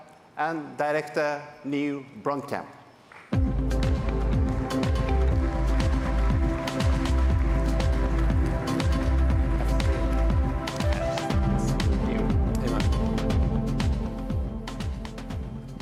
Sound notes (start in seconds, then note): 5.3 applause